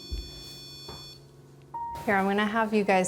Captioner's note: REM-Pod beeping